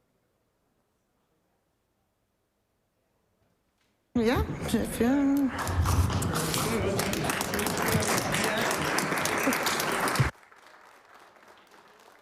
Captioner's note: applause